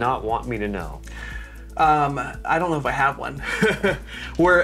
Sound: chuckles

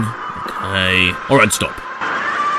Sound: intense screaming in pain

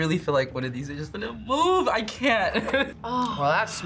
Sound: laughs

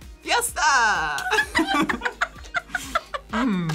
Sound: both laugh

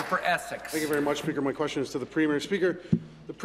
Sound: applause

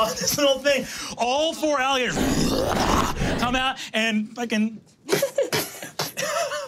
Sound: growling

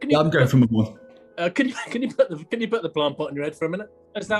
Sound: laughs

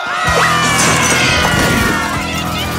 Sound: murmuring

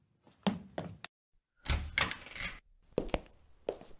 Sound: the bedroom door opens

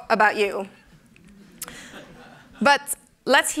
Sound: laughter

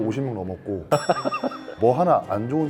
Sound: laughs in disbelief

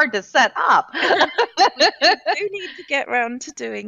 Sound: laughing

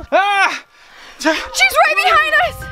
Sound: dad exclaims

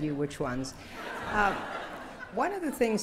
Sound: laughter

